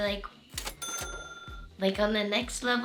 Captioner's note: bell dings